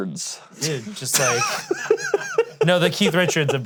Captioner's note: laughing